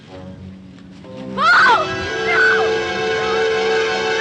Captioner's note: screaming